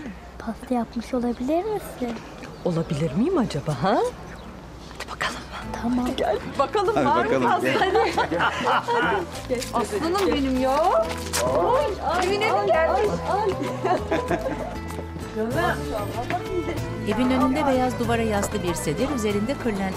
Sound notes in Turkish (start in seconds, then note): 7.5 Gülme sesleri; 13.5 Gülme sesleri